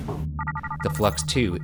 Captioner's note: device trilling